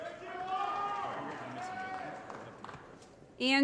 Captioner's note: applause & Cheering